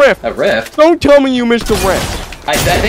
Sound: guns firing

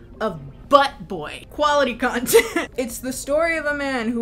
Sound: laughs

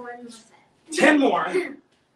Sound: giggles

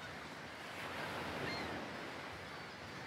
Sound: seagulls screeching, the sound of the sea

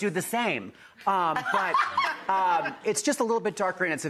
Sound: audience laughing

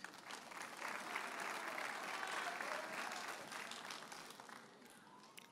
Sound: audience cheers and applauds

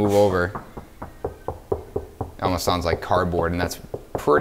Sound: knocks on wall

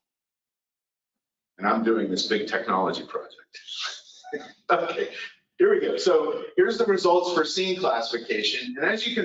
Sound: laughs

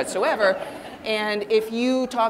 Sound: audience laughing

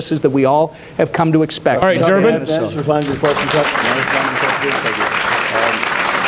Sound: applause

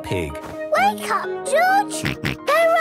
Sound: George snorts

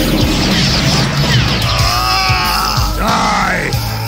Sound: screaming

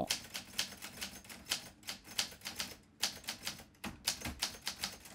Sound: typing on a typewriter

